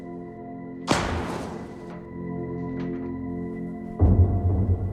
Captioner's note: gunshot hitting metal